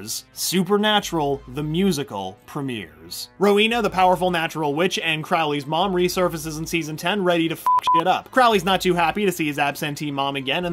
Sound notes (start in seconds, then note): 7.6 beep beep